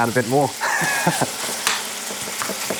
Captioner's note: laughs